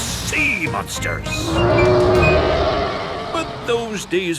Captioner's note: roaring